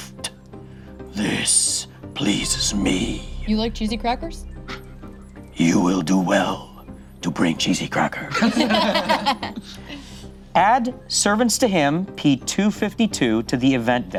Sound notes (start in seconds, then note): 8.2 group laughs